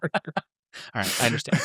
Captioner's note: laugh